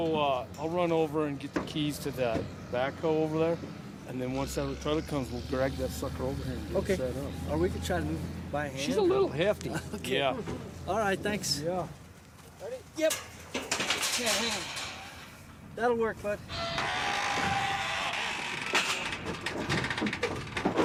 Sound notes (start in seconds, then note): 16.4 door squeaking